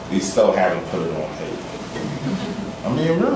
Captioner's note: laughter